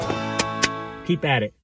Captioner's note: clapping